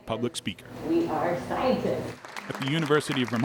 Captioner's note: crowd clapping